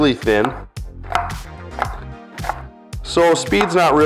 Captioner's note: knife chopping